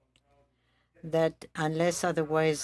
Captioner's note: speaking French